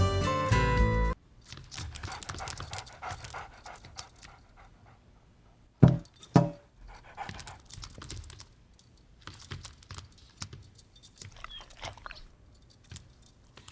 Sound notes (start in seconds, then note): 1.8 panting; 5.8 thump, thump; 6.7 panting